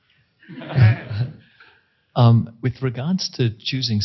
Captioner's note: crowd laughing